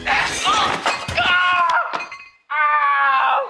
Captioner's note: screaming